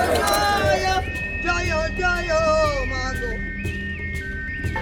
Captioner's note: chanting continues